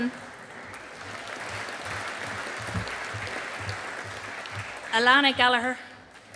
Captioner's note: audience applauding